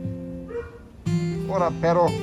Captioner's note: dog barks